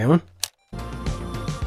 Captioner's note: remote click